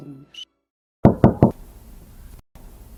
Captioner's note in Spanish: Tocan a la puerta